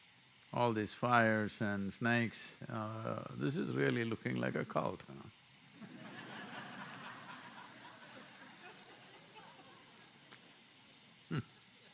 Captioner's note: laughter